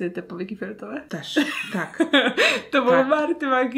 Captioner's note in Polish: śmiech